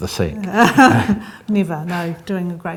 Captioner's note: laughs